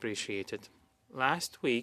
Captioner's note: speaking French